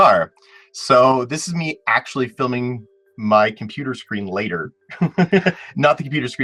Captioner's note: laughs